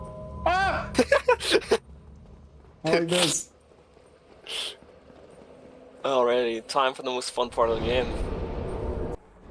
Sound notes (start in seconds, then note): 0.3 yells; 0.9 laughs